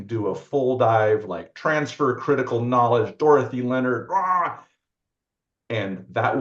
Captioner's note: grunts